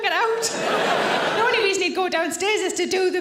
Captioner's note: audience laughing